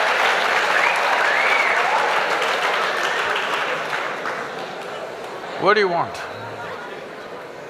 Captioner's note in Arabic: ضحك وتصفيق